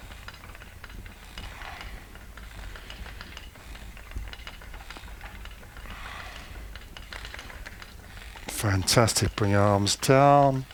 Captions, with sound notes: (wheel clicking) Fantastic, bring your arms down.